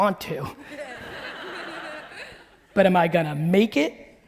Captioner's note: audience laughing